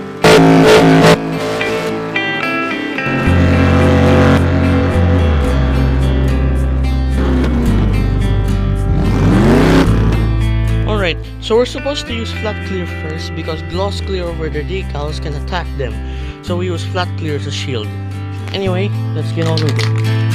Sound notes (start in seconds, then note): 3.0 vrhhhhmmmmmmmmmmmmmmm; 8.3 vrrrhhheemmmm!!!